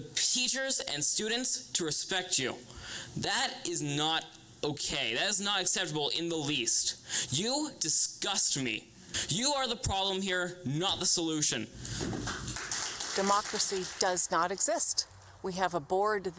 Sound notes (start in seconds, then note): 12.0 audience applauding